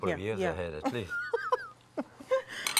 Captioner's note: laughter